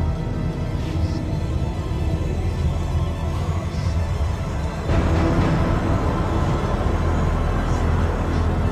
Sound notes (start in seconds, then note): 0.7 ghostly whispering